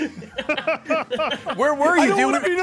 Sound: laughs

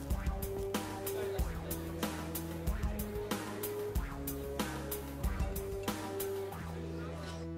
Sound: chattering

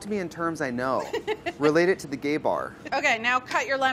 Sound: laughs

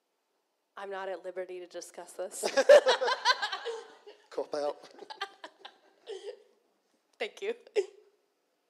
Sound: laughter

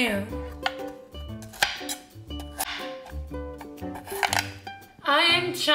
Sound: chopping

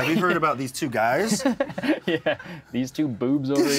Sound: both laugh

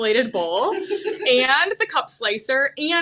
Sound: chuckles

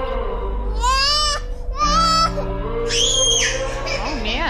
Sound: crying

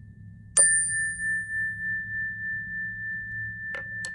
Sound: calming chime sound

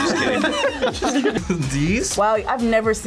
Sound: group laughs

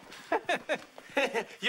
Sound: laughing

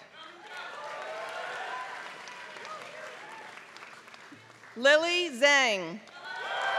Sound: applause

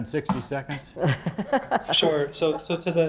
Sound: laughter

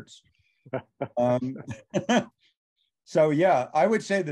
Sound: all laughs

